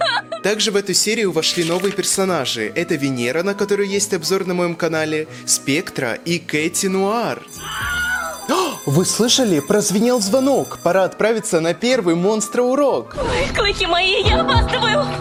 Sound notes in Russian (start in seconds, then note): 7.5 Звонок